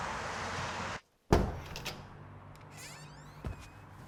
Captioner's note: door thudding; door creaking